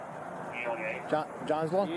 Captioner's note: radio chatter